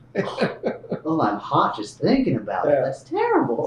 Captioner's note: laughs